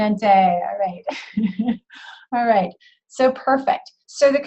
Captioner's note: laughs